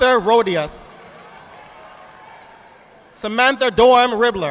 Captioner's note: audience clapping